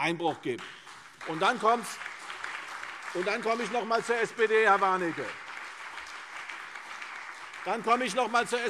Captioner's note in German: Beifall CDU und BÜNDNIS 90/DIE GRÜNEN